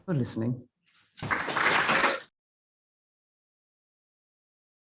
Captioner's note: audience applauding